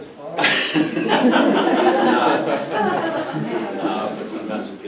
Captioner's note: audience laughs